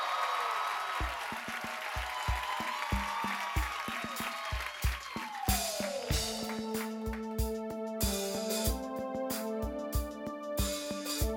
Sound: cheers and applause

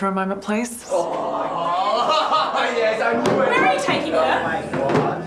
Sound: students hollering

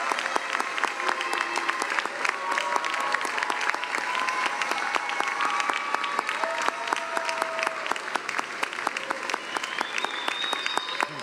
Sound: cheering and applause

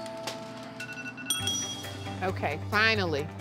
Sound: bell dinging

